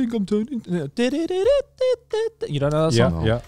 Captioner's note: mimicking the song beat